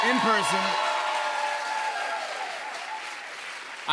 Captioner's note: cheers and applause